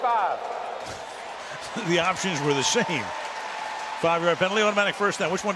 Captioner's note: chuckles